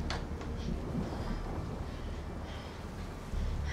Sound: none

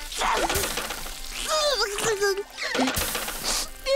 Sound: crying

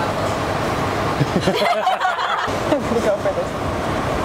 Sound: all laughs

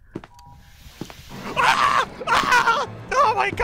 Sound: dramatic scream

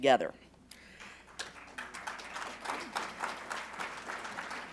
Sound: applause

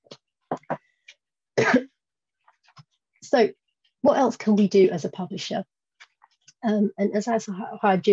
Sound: cough

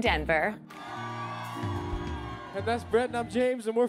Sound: crowd cheering

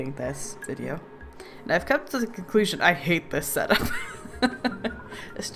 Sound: laughs

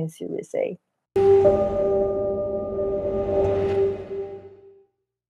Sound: sound effect

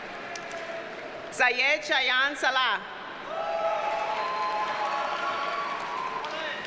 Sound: audience cheers and applauds

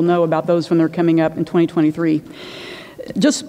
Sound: inhales

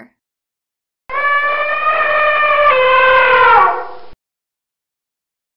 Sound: elephant trumpeting

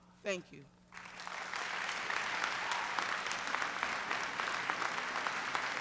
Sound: applause

